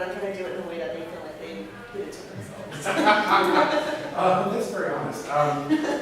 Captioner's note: laughs